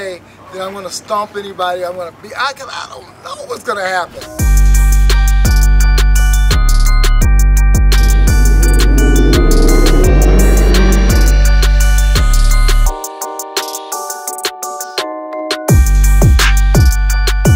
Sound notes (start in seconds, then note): 4.9 suspenseful music; 7.9 engine revving